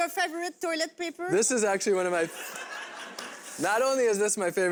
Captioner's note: crowd laughs